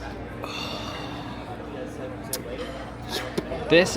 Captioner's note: sighs contentedly